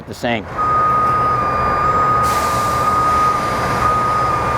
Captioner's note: beeping